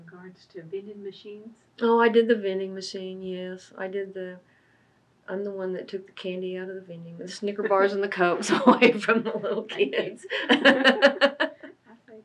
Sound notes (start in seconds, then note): 7.6 laughs